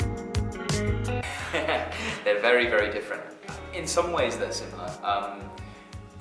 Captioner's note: chuckles